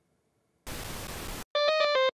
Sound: sfx tv tuning; electronic keyboard music plays

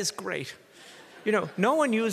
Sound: audience laughs

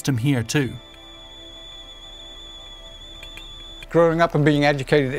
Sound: teapot whistling

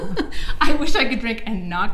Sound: giggles

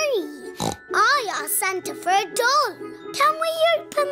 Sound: snorts

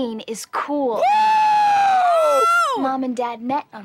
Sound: both cheering

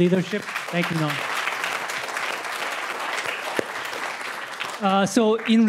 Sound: applause

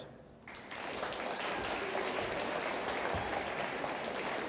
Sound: audience applauds

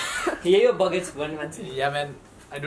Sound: in Nepali

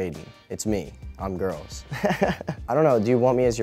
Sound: laughs

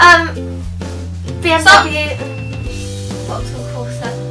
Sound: ding

